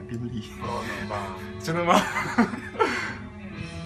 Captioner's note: laughs